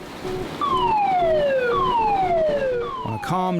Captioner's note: alarm blares